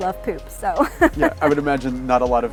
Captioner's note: laughing